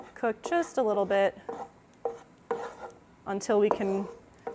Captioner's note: spoon stirring in pan